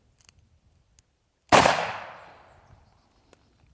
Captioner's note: gun shooting